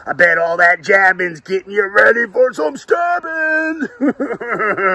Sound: laughing

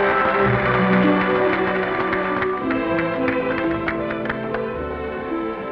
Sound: clapping

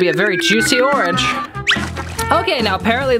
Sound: splashing

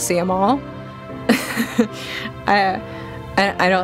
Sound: nervous laughter

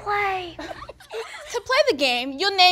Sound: audience laughs

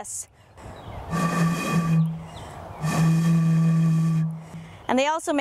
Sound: imitates the booming noise

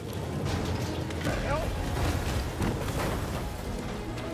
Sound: crash

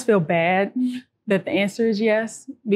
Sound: hums

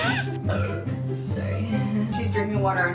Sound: burps; gasps

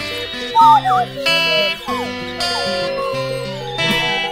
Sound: whistling

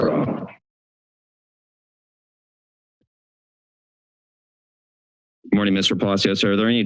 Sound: silence

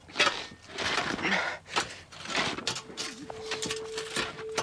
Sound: metal scraping

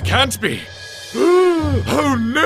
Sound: gasp

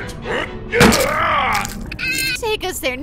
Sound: groans; bones cracking

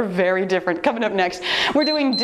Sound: timer beeps

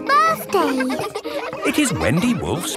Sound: kids laughing

